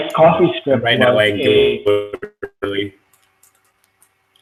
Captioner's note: static